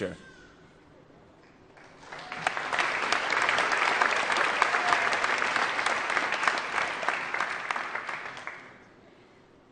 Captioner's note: applause